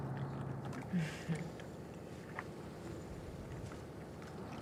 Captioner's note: Cecile chuckles